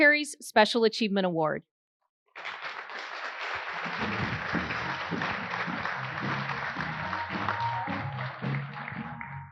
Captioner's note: applause